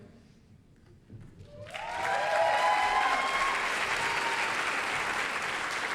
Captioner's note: applause, cheering